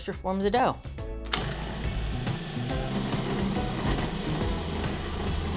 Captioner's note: food processor whirs